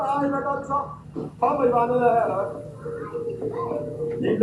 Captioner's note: children laugh